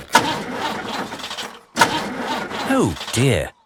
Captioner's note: engine sputtering